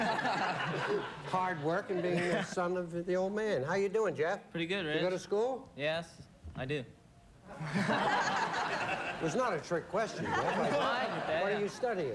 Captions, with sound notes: HARD WORK IN BEING THE SON OF THE OLD MAN. HOW YA DOIN', JEFF? PRETTY GOOD, RICH. YOU GO TO SCHOOL? YES, I DO. [LAUGHTER] WAS NOT A TRICK QUESTION, JEFF. OH, I KNEW THAT. WHAT ARE YOU STUDYING?